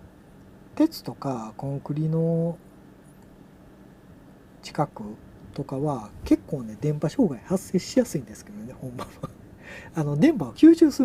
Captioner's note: laughs